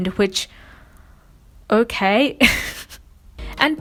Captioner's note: laughs